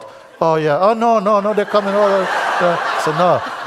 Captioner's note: Lachen